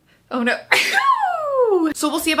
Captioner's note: sneezes